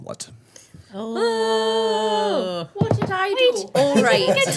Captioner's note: screaming